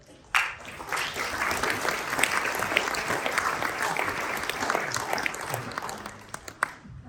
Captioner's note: applause